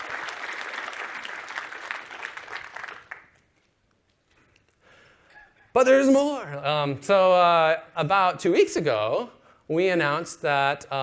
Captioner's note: applause